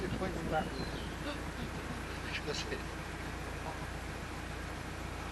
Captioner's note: laughing